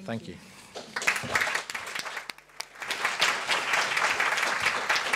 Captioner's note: applause